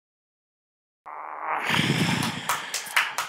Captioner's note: grunting; claps